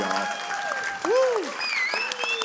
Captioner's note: applause